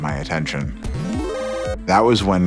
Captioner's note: electronic buzzing